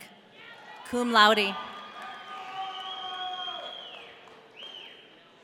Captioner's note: audience cheering